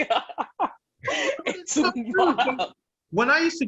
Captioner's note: laughter